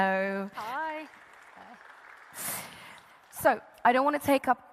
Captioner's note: audience applauding